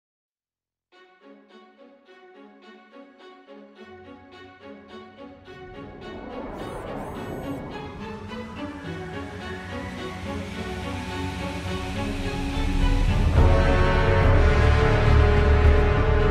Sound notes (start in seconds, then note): none